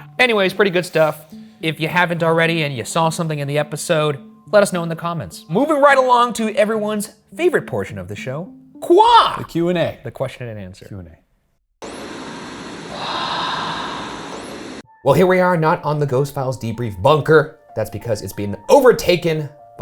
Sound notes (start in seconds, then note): 11.8 static hisses; 12.8 person breathing